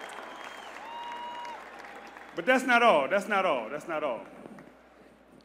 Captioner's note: applause